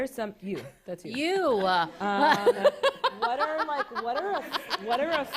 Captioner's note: laughter